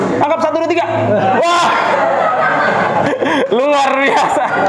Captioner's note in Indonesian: Laugh